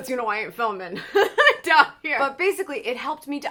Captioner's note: laughs